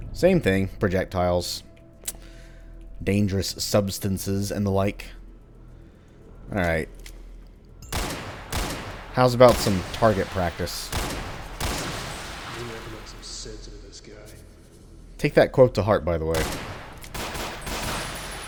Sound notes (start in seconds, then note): 7.8 Colt firing, more Gasbag explody sounds; 16.3 various guns firing, Gasbags continue to go boom